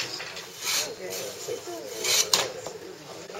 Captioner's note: stump falls